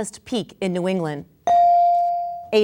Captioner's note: bell dinging